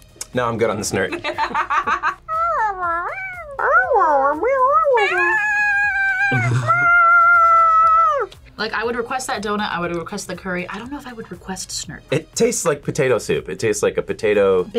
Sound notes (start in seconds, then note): 1.7 laughs; 2.3 girls meowing